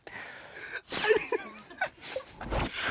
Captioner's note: laughing